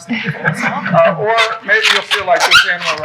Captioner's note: people murmuring